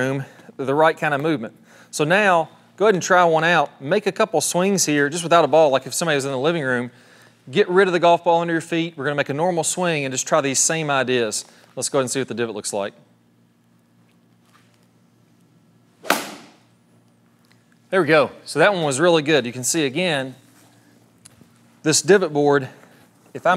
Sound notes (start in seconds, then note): 16.0 golf club striking board